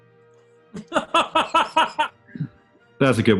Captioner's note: laughing